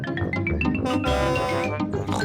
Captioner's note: horn blares; snorts